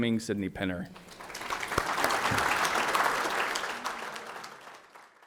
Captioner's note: audience applauds